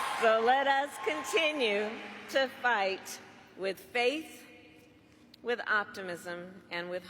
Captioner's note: cheers and applause